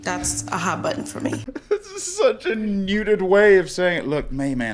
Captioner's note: laughing